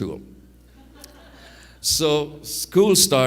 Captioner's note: audience laughs